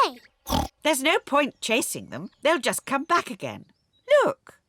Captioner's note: oinks